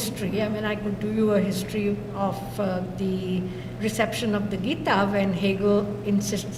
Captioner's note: non-english